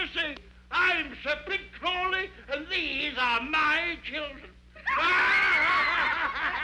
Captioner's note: laughing